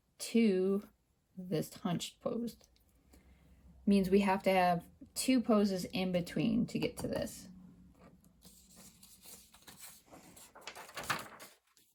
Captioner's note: paper shuffling